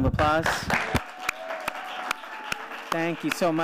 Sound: audience applauds

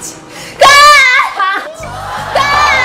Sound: screams

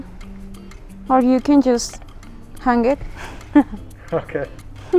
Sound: laughs

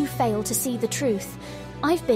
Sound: inhales

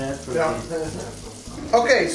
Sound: laughing

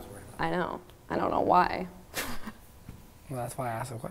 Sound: chuckles

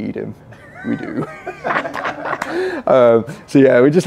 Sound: laughing

